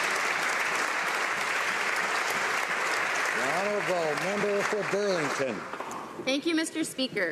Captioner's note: applause